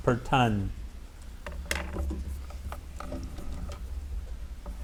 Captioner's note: light clattering